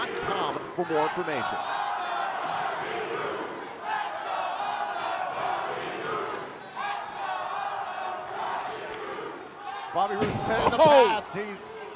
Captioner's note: crowd cheering